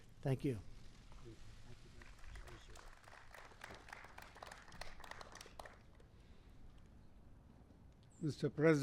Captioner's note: applause